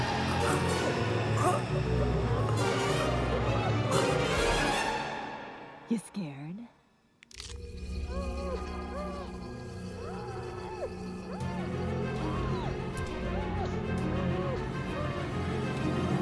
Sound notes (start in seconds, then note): 8.1 screaming; 14.7 sirens blaring